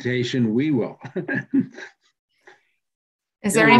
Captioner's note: laughs